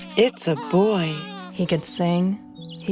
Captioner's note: baby cries